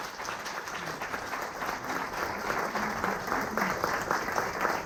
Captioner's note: applause